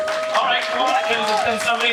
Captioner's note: audience applauding